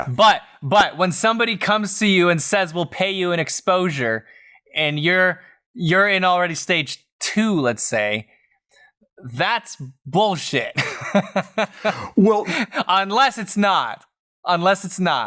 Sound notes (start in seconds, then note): 10.7 laughter